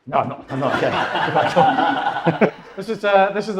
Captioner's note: audience laughs